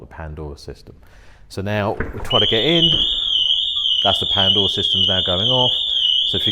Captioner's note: alarm goes off